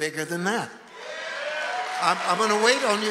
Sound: audience cheering and applauding

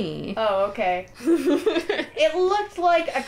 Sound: laughter

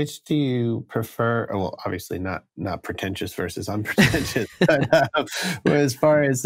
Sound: laughter

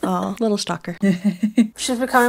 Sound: laughing

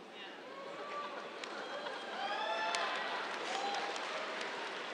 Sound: cheers, applause

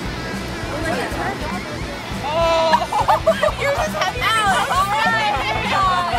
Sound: gasping and laughing

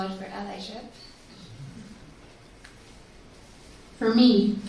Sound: laughs

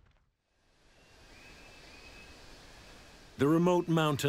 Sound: birds chirping

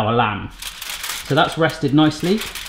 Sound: foil crinkling

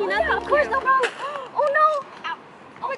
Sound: gasp

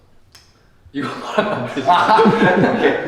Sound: laughing

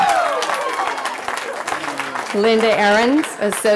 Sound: cheering

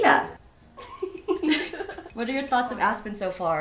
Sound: giggling

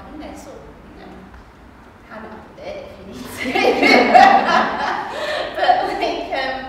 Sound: laughs

